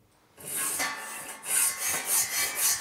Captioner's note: grinding noises